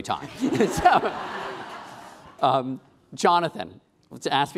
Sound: laughing

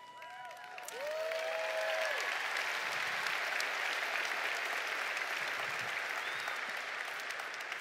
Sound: applause

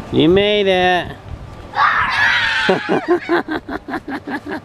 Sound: screaming

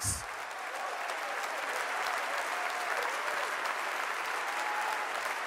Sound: audience applauding

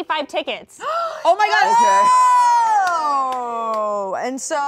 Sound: group cheering

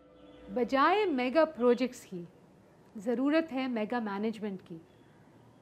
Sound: speaking in foreign language

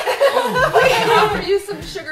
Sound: laughter

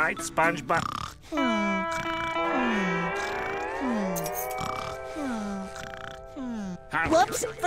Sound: snoring

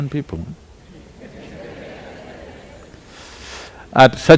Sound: laughter

